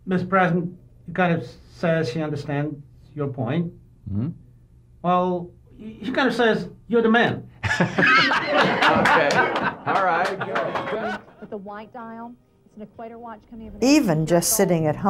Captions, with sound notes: It was every parent's dream come true. - So help me God. - So help me God. - Congratulations. (audience applauding)